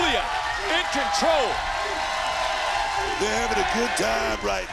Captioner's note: crowd cheering